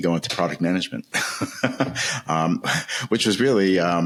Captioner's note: laughing